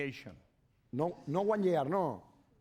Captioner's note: speaking spanish